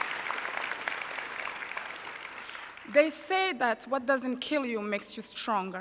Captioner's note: applause